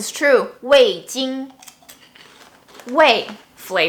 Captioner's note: speaks foreign language; speaks in foreign language